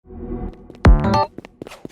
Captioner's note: whoosh